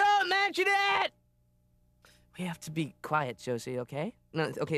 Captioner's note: screams